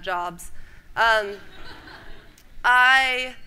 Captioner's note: laughter